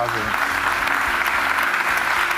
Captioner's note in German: Applaus